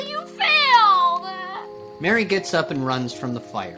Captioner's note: Mary cries